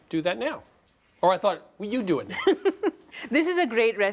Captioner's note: laughs